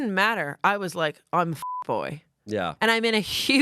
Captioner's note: beep